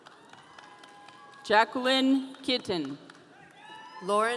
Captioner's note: audience cheering